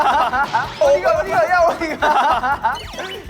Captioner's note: crash